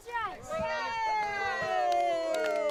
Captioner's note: cheering